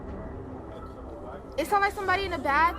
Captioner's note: students chattering